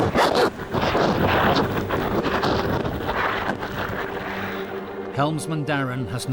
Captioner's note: mic scratching; water whooshing; rescuer rustling; water splashing